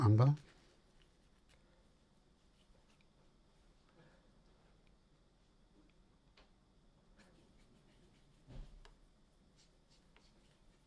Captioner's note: silence